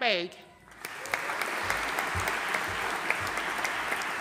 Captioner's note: audience applauding